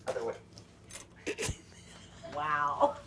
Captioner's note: laughing